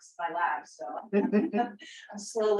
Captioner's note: laughs